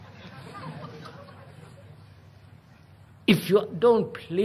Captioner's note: laughter